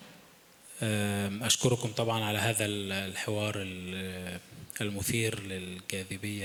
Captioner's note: speaking in foreign language